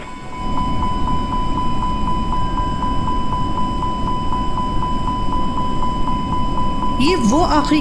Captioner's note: warning beep sound